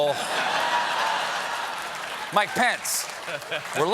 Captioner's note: applause; laughter